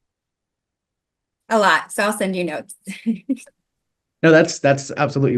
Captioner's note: chuckling